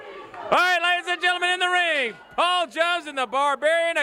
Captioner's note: crowd cheering